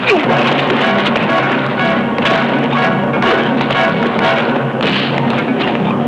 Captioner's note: crying out; whacking